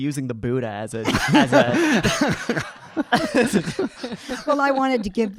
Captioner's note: audience laughing